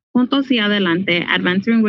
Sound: speaking in foreign language

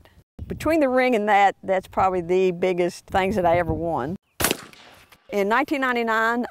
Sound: bang

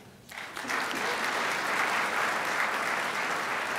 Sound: crowd applauds

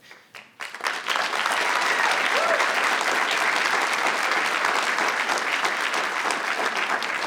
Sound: audience applauding; audience cheering

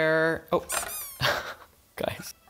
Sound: rubber duck squeaks

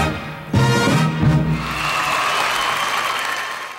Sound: audience cheers and applauds

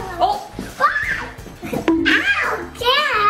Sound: screaming

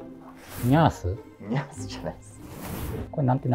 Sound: laughing

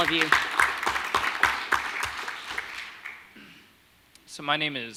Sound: audience applauding

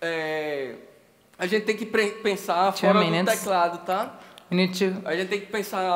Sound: speaking Portuguese

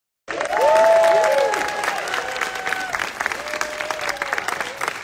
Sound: audience applauding

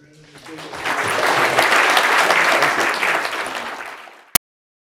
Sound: applause

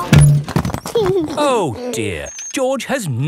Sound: george imitates airplane; george giggles

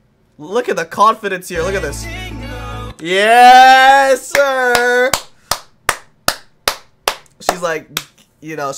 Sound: claps

